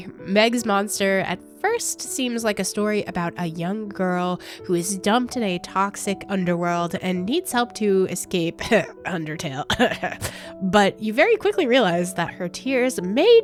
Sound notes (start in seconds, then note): 8.6 cough; 9.7 ahem